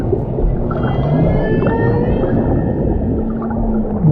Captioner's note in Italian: canto di megattera